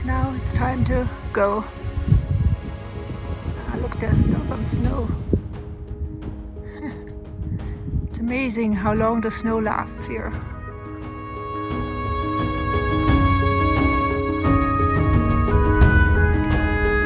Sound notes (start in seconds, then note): 6.6 laughs; 10.8 sentimental music